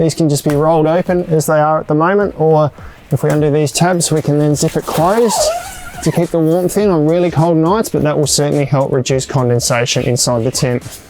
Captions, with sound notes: These can just be rolled open as they are at the moment. Or, if we undo these tabs, we can then zip it closed (zipper noise) to keep the warmth in on really cold nights but that will certainly help reduce condensation inside the tent.